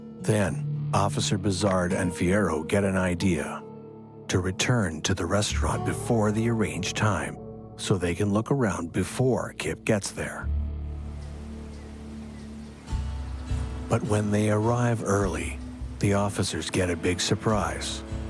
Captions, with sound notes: Then, Officer Bisard and Fiero get an idea. To return to the restaurant before the arranged time, so they can look around before Kip gets there. (wind blowing) (dramatic music) But when they arrange early, the officers get a big surprise.